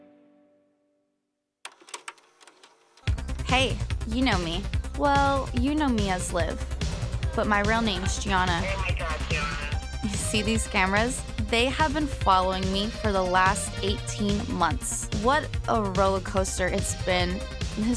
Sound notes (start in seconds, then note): 1.7 recorder clicking; 3.3 upbeat music